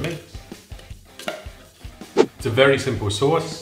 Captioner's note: spoon scrapes bowl; whooshing